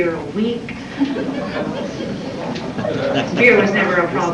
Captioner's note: laughter